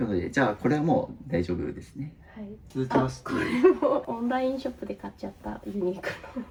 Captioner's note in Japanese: 笑い